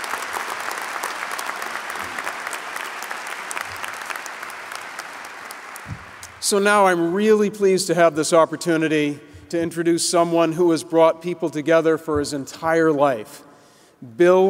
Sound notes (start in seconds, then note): 0.0 applause